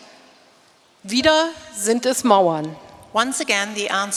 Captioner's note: speaking in German